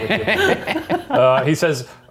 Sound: laughing

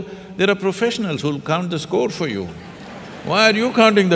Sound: laughter

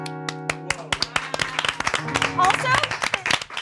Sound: all applauding

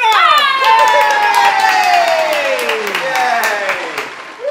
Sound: group cheers; audience cheers

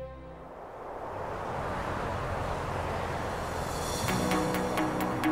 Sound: wind noise

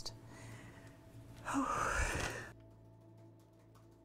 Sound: Agent Campbell sighs

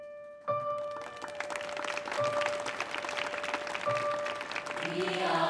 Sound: gentle piano notes; audience applauding

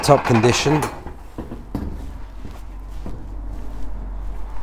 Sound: metal stable door rattles

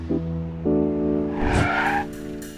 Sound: brakes squeal

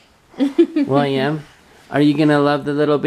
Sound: laughs

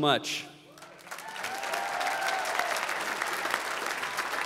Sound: applause

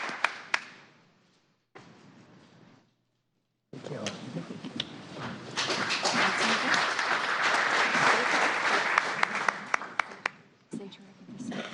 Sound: applause

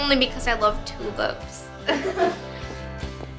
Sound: laughing

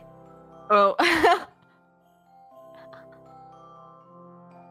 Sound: laughs

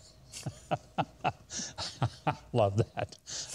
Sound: laughing

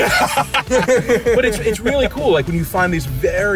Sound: laughs

